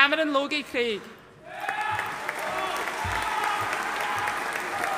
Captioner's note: audience cheering